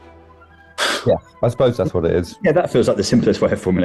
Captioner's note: laughs